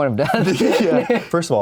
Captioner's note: laughs